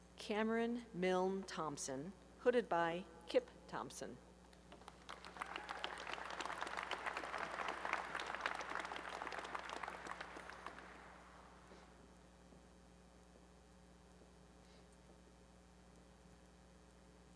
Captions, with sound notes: Cameron Myln Thompson, hooded by Kip Thompson. [applause]